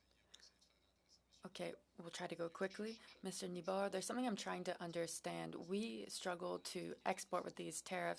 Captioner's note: speaking French